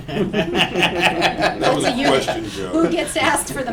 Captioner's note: laughter